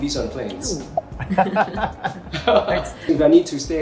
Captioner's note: all laugh